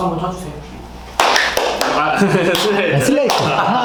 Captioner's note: A round of applause